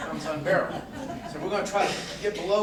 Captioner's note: corporate laughter